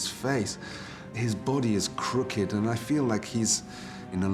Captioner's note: none